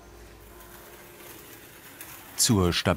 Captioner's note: scratching noise